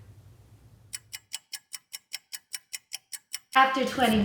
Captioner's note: clock ticking